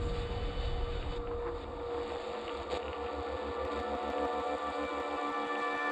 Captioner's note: dramatic swoosh; radio static crackles